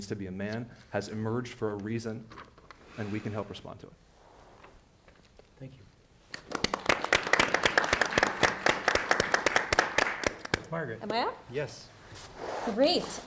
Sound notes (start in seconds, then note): 6.3 people clapping